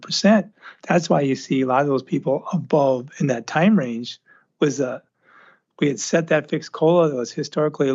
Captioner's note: clears throat